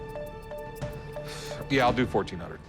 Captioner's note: sighs